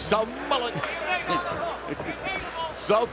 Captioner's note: laughter